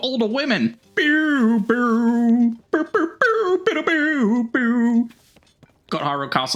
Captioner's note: hums more